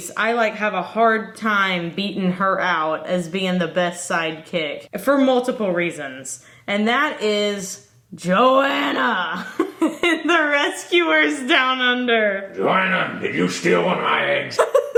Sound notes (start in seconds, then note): 9.4 giggles